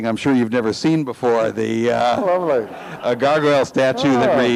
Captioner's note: audience laughs